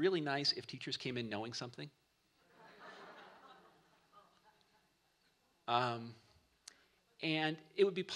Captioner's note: laughter